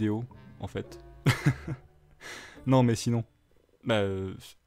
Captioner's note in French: rires